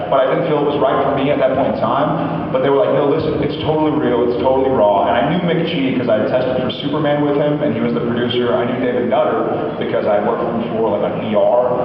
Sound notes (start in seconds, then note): none